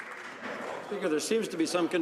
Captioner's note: some Applause